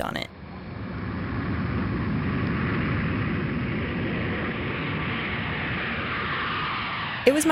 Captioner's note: sound of a plane taking off